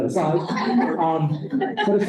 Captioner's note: laughter